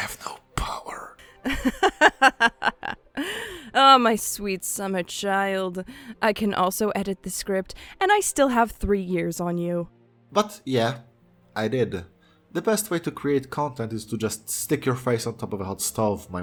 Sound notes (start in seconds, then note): 1.4 laughs